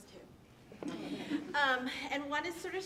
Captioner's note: audience laughing